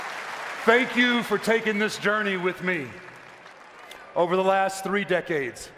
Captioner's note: applause